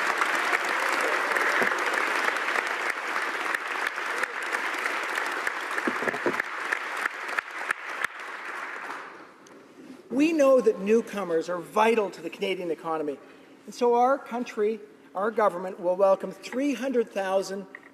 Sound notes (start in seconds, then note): 3.3 applause